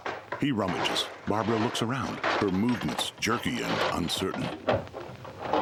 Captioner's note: tools clanking